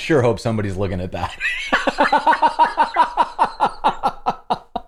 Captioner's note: laughter